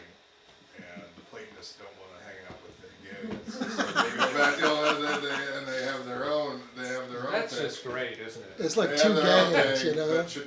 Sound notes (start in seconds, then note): 3.4 attendees laugh